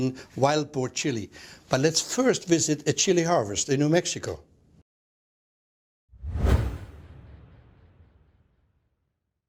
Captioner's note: swoosh